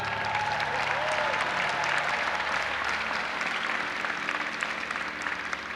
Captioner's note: audience applauding and cheering